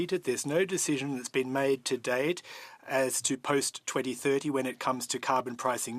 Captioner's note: speaking French